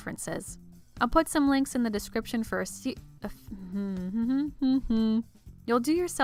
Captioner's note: starts humming